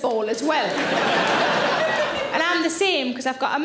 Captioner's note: audience laughing